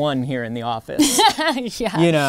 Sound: laughing

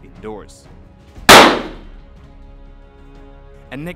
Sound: explosion

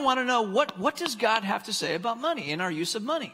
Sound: tapping

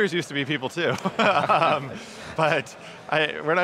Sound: laughing

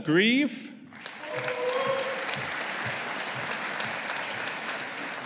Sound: audience applauding

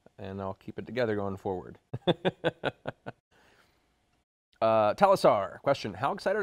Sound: laughs

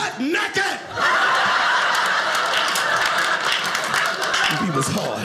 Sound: audience laughing

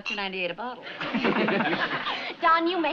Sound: laughter

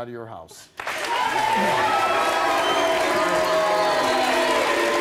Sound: audience applauding

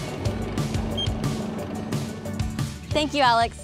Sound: roller wheels spinning; upbeat music; machine beeping

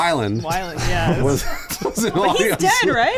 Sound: laughing

